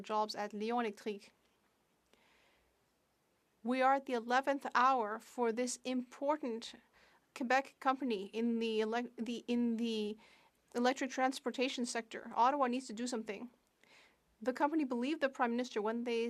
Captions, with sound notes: by offering the Bloc Québécois solidarity to the workers who are losing their jobs at [Speaking French] We are at the 11th hour for this important Quebec company in the